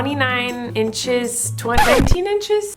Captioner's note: record scratch